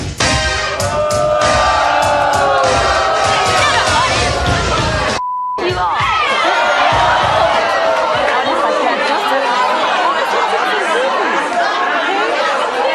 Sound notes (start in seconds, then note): 0.1 upbeat music; 0.6 audience booing; 5.6 audience hollering; 8.7 audience hollering drowns out speaker